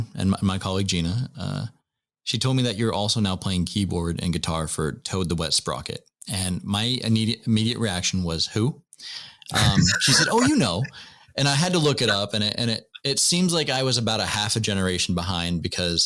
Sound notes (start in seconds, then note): 9.6 laughter